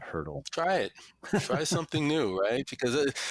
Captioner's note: laughs gently